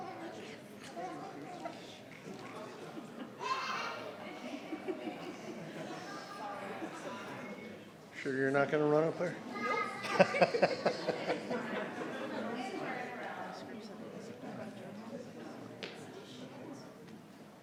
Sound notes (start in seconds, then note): 0.2 people chattering; 9.7 people laughing; 12.8 people chattering